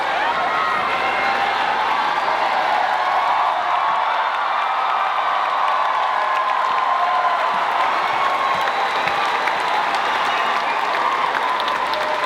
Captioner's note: cheering